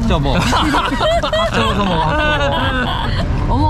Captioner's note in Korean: ㅋㅋㅋㅋㅋㅋㅋㅋㅋ